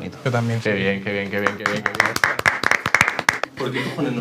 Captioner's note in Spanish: aplauden